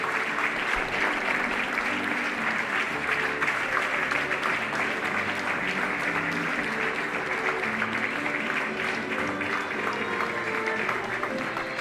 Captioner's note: applause